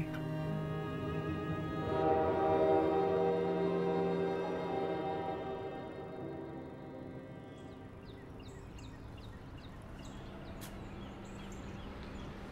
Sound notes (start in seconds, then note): 0.2 soft music; 2.2 train whistle blows; 8.3 birds chirp